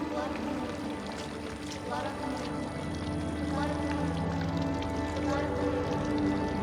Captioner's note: chanting